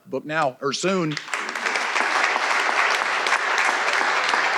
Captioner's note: audience applauding